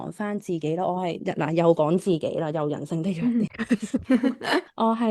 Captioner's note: laughs